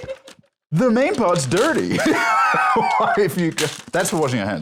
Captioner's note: laughs